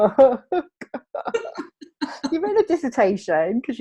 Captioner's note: laughing